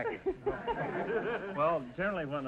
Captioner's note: audience laughter